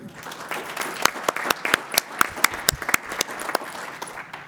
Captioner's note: applause